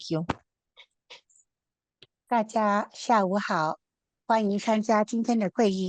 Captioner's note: interpreter speaking Mandarin